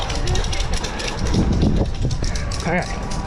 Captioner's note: wind blowing